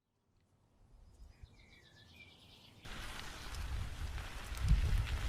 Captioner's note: nature sounds